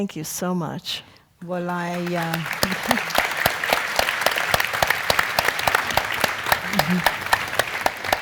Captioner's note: applause